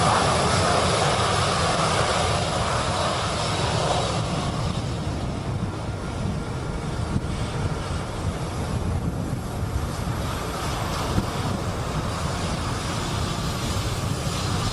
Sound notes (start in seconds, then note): none